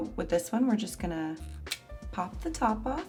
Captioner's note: lid clicking